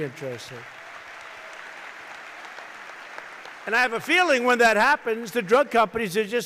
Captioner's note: applause